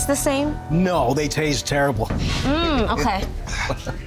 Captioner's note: chuckles